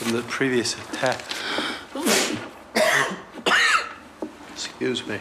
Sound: sneezes, coughs

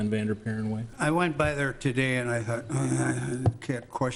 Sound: grunts

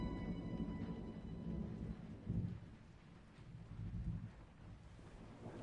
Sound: thunder outside rumbling

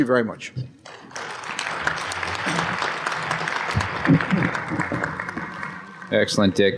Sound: applause

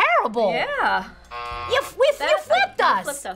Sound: buzzer rings

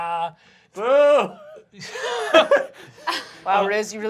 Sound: laughter

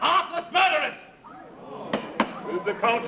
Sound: crowd murmurs

